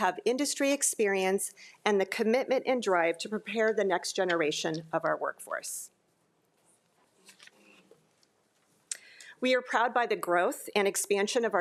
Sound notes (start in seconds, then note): none